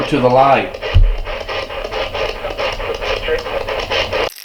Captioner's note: thud